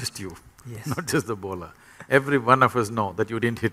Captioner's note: laughs